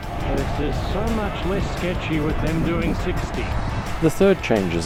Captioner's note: shouting over loud traffic